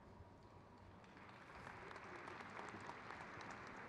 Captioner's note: crowd claps